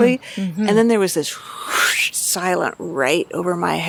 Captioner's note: whooshes